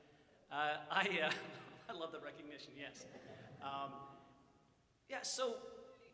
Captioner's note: audience chuckles